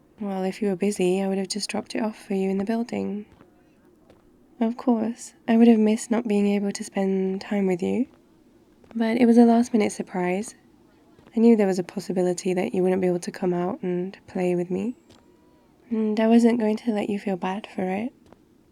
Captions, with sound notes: well, if you were busy I would have just dropped it off for you in the building of course, I would have missed not being able to spend time with you but it was a last-minute surprise *park ambience* I knew there was a possibility that you wouldn't be able to come out and play with me and I wasn't going to let you feel bad for it